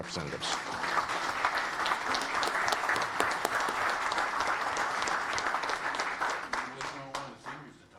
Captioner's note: applause